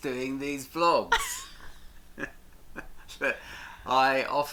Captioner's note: both laugh